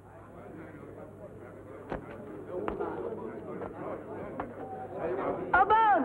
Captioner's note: indistinct crowd chatter